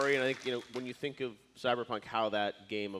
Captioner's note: applause